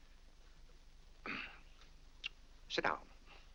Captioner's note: clears throat